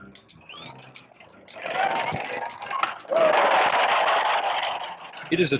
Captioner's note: Ralston roars